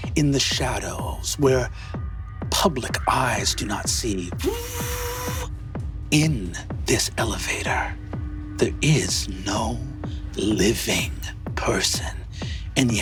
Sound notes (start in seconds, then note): 4.4 Brennan mimics elevator humming